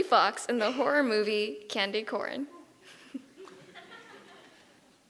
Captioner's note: giggles